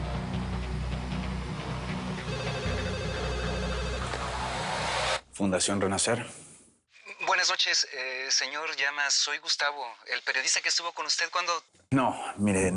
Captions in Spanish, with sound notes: [Suena el teléfono] - "FUNDACION RENACER". - BUENAS NOCHES, SEÑOR LLAMAS, SOY GUSTAVO, EL PERIODISTA QUE ESTUVO CON USTED CUANDO...